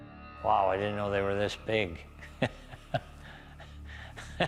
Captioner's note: chuckles